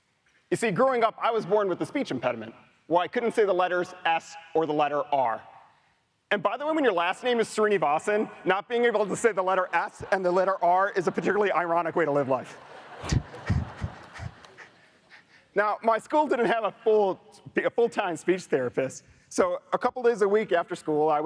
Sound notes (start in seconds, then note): 12.8 audience laughs